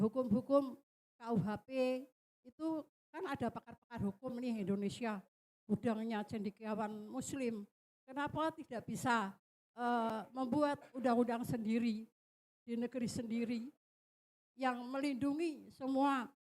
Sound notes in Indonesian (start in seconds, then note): none